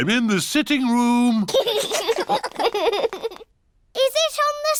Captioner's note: laughter